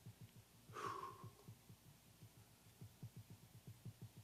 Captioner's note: huffs